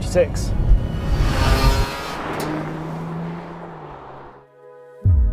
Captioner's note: engine revs